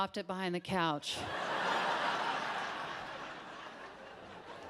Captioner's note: audience laughs